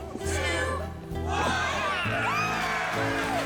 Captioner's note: cheering